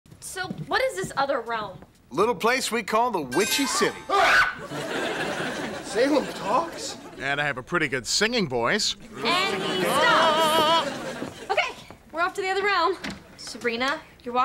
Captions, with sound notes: SO, WHAT IS THIS OTHER REALM? LITTLE PLACE WE CALL THE "WITCHY CITY." (all scream) (chuckles) SALEM TALKS? AND I HAVE A PRETTY GOOD SINGING VOICE. AND HE STOPS. OKAY, WE'RE OFF TO THE OTHER REALM. SABRINA, YOU'RE